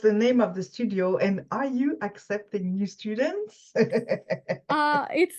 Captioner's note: laughs